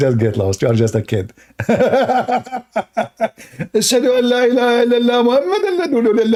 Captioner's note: Ketawa